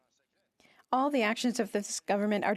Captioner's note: speaking French